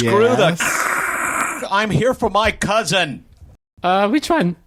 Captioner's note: imitates static